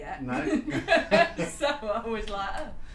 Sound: laughter

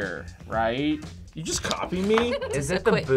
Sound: laughs

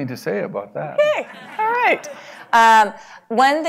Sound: laugh

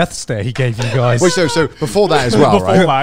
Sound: laughs

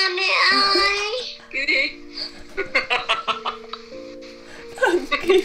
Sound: happy and entertained

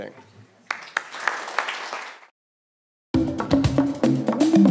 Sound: audience applause

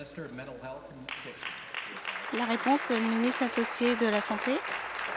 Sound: applause

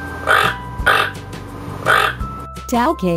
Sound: toucan sound

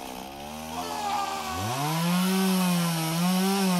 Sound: man screams

